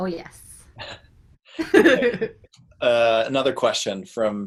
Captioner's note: laughs